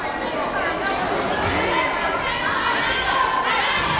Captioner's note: yelling